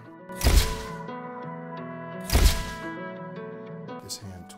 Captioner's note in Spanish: El flash de la cámara dispara